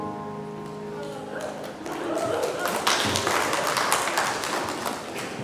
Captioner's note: congregation applauding